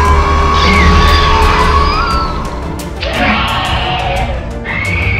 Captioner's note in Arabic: سكوربيوس ريكس هدير; هيرميس صراخ